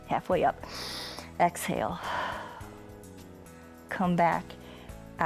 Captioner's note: exhales; inhales